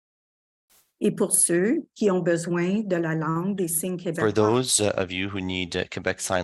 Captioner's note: speaking French